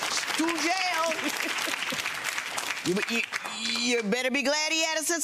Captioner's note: audience applauds